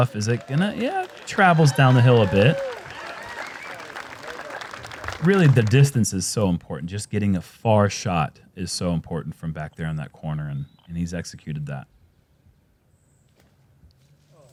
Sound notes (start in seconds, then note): 2.8 applause